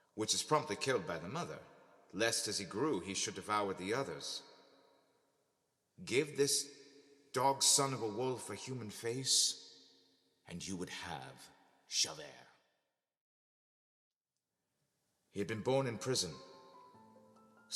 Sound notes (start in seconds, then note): none